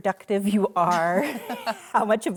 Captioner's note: laughter